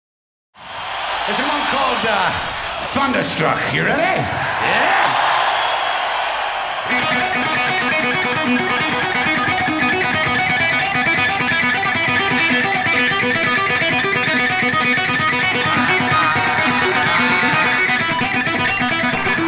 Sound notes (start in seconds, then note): 0.7 audience cheering; 4.9 audience cheering; 5.5 upbeat music